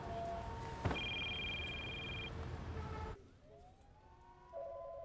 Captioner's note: phone ringing